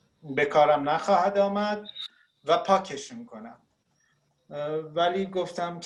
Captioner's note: speaking Farsi; speaking Farsi